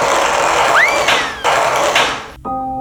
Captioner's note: bang